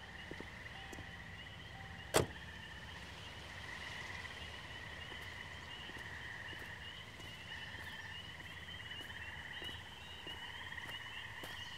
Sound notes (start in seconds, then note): 2.1 car door thuds